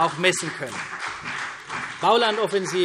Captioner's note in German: Beifall CDU und BÜNDNIS 90/DIE GRÜNEN